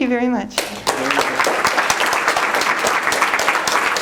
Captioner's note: applause